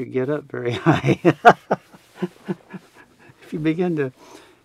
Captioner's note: laughs